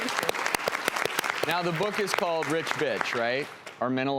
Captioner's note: audience applauding